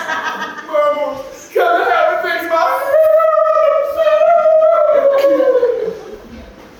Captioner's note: wailing inconsolably